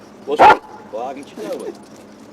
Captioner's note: dog barks loudly